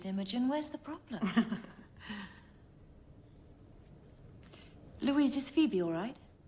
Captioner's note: Dr. Reed laughs